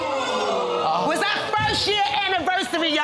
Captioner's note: audience exclaiming